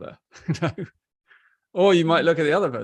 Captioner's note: laughs